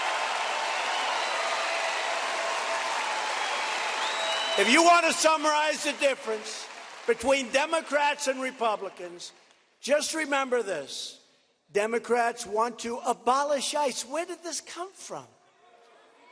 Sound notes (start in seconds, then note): 1.9 cheers and applause